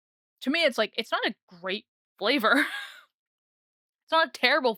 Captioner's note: laughs